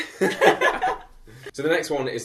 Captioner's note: both laugh